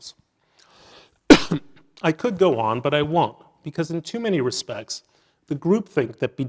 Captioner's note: cough